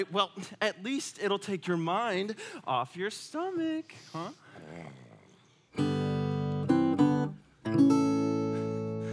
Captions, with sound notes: - Well, at least it'll take your mind off your stomach. Huh? (Sven grumbling)